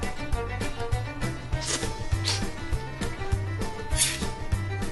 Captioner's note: nibbling